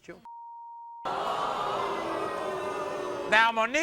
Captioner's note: crowd groans and boos